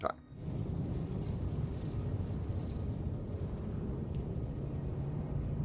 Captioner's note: creepy Howling Wind